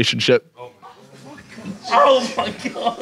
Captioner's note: Sidemen groan